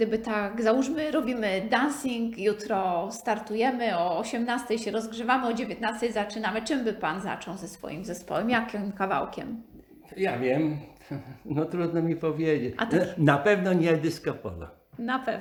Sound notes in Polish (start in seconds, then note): 11.1 śmiech